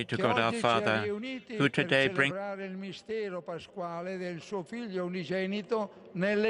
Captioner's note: speaking Alternate Language